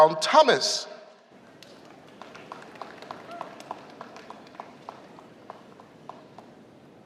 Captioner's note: applause